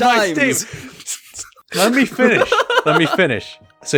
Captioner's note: laughs